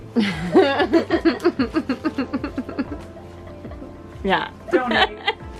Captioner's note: and kids laugh